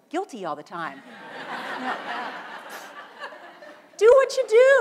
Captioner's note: audience laughs